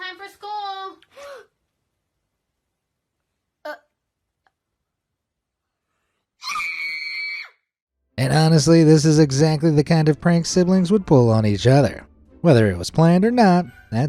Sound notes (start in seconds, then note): 1.7 gasps; 6.4 child screams